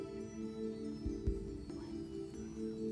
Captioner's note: whispering